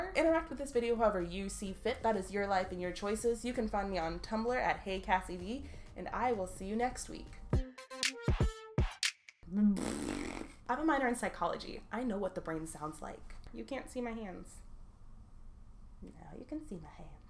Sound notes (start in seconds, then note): 9.5 fart noise